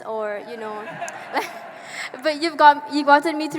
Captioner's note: audience laughing